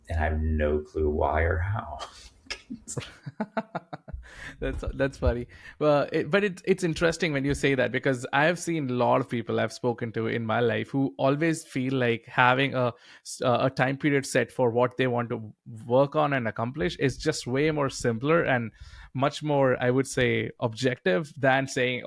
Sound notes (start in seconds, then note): 2.4 chuckling